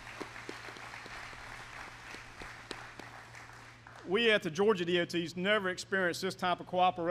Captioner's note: applause